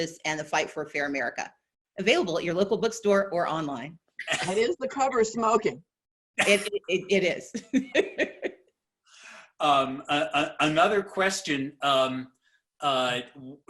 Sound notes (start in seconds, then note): 7.6 laughing